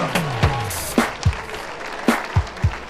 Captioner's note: applause